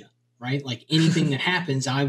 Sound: laughs

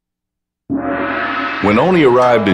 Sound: gong

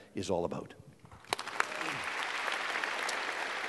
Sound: applause

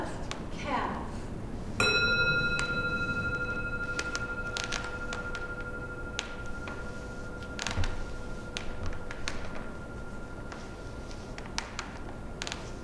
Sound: gong

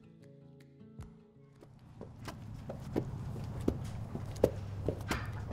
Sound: horse galloping slowly

